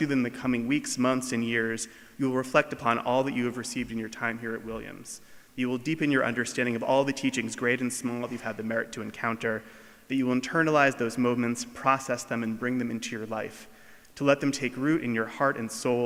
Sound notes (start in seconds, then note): none